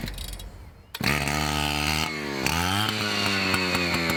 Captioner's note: motor fires up